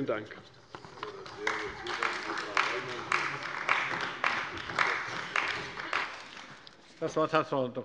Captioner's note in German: Beifall bei der CDU und dem BÜNDNIS 90/DIE GRÜNEN